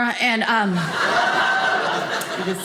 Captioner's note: audience laughing